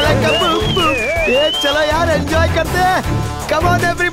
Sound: whistling

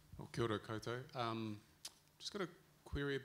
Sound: speaking in foreign language

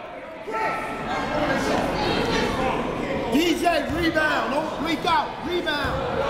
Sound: crowd talking; coaches yelling

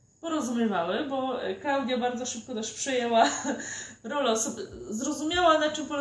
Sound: laughs

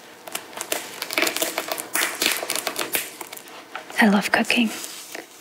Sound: peppers sizzling

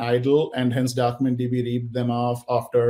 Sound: audio distorting

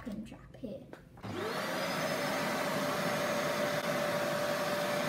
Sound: vacuum cleaner whirrs

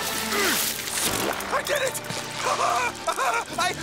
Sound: laughing

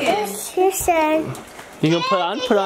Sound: babbling

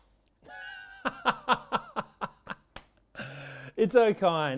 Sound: laughs

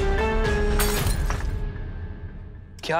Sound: glass breaking

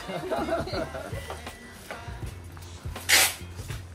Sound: laughs

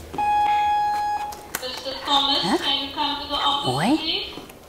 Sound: intercom announcement

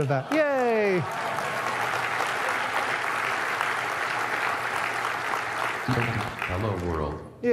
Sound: audience applauds

